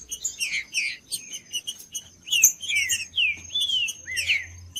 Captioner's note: trinca ferro cantando